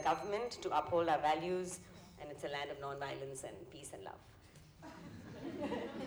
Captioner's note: bell rings; laughter